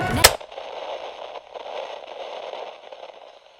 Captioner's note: static